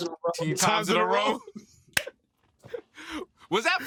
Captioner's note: both chuckle